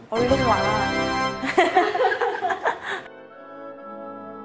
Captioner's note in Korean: 웃음